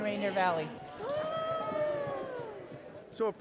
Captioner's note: cheering